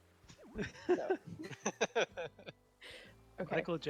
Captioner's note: laughter